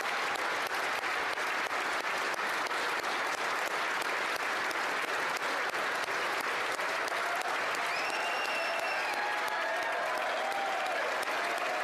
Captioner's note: applause